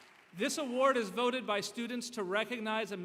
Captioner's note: applause